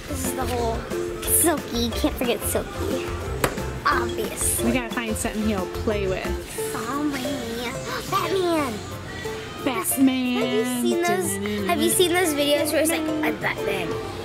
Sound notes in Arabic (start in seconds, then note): 7.8 الشهقات